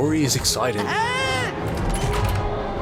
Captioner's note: scream